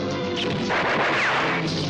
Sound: gunshot

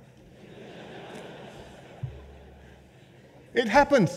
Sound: laughter

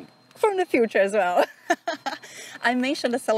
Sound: laughs

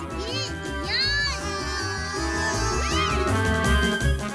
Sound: Ikong screams

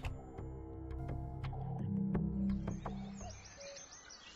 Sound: birds Chirping

